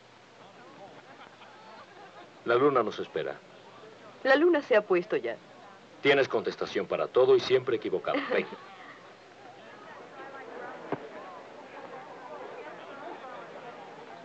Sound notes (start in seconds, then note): 10.1 people chattering